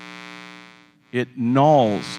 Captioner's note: buzz